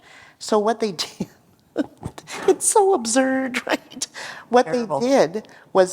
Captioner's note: laughter